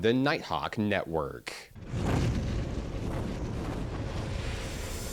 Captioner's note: wind whooshing; cymbal flutter